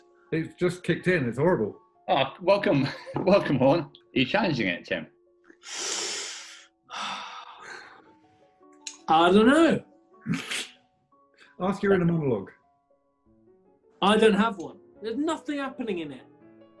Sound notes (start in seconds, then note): 5.6 exhales; 5.6 sucks air in through gritted teeth; 10.2 sniggers